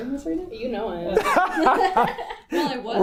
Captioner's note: laughter